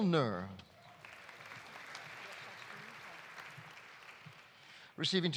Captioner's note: audience applauding